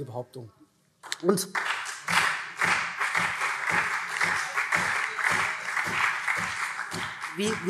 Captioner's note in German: Beifall SPD und CDU